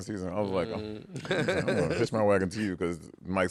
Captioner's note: laughter